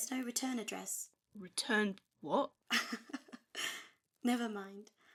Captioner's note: his mother laughs